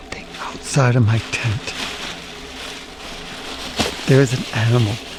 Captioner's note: rustling leaves